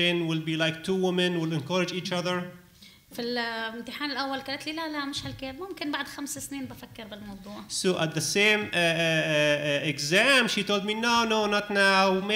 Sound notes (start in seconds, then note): 3.0 speaking arabic